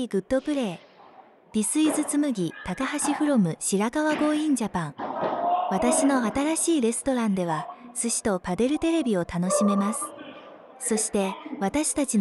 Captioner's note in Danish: Fortsætter på japansk